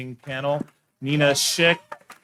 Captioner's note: attendees cheering and applauding